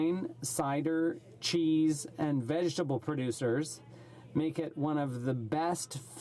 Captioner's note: speaking French